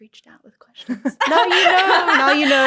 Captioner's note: laughter